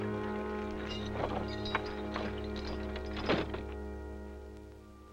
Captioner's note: chains Rattling